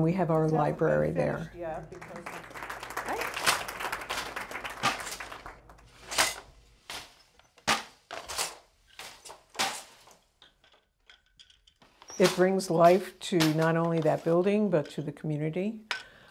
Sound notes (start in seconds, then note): 1.6 people clapping; 6.0 loom clacking